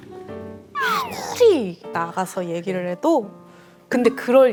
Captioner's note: frustrated